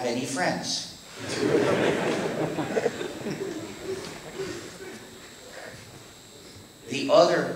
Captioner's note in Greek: Γέλια στο ακροατήριο